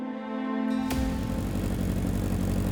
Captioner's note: motorcycle approaching